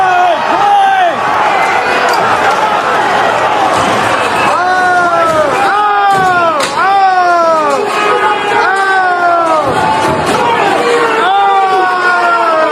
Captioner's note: shouting